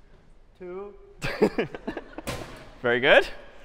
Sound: laughter

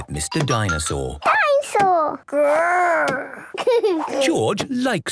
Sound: giggles

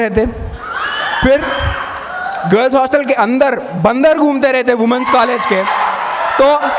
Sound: cheering

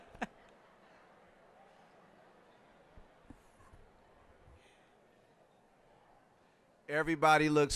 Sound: all laughing; general chatter

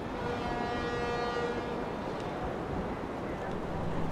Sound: ferry horn blasting

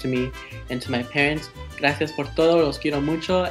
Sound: speaks in foreign language

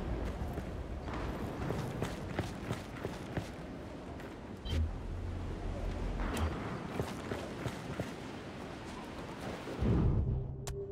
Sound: footsteps; dramatic music

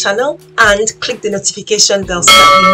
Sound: bell dings

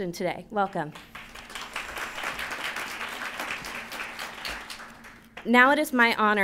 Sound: applause

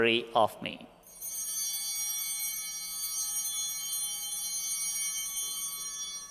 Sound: bell ringing; bell continues ringing

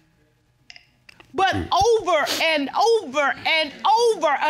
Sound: stammers

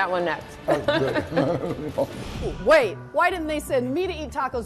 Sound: both laugh

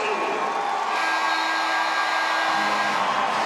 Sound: buzzer sounds

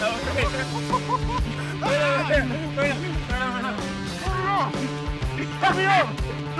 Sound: laughter

